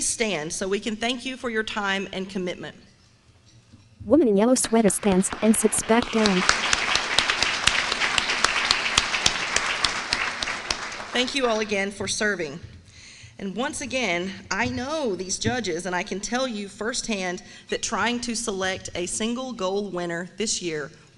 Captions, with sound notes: stand so we can thank you for your time and commitment. [APPLAUSE] Thank you all again for serving. And once again, I know these judges, and I can tell you, firsthand, that trying to select a single GOAL winner this year